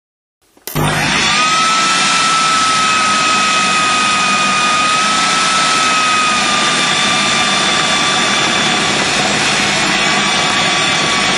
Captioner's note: sound of food processor